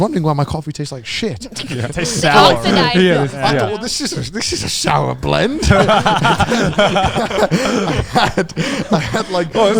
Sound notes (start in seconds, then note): 5.9 all laughing